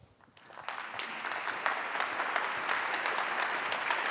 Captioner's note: applause